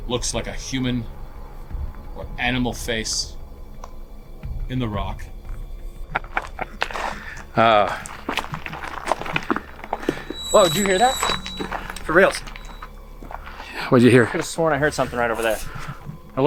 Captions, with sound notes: - Looks like a human or animal face in the rock. (laughing) Oh. - Whoa. Did you hear that? For reals? - What'd you hear? - I could have sworn I heard something right over there.